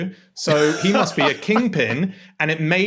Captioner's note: laughs